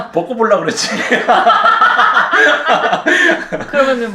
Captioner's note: devil's laughter